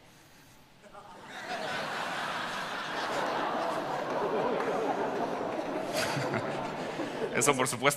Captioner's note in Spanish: Risas